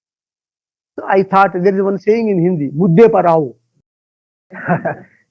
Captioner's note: speaking in Hindi